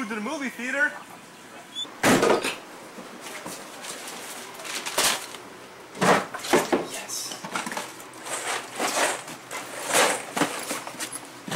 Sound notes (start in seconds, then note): 1.8 door clicking closed